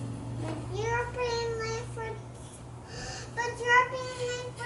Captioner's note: catches breath